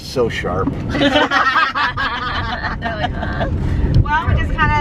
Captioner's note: laughing